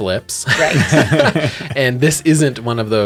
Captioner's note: laughter